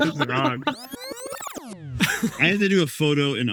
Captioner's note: graphic buzzes